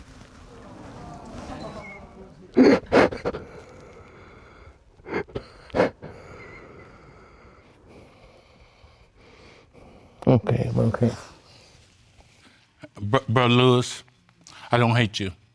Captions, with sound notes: (SOBBING) (SOBBING) I'm okay. I'm okay. But, Lewis, I don't hate you.